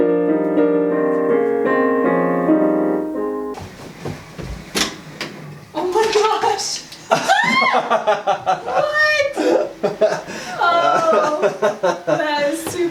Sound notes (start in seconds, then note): 6.9 laughing; 7.2 screaming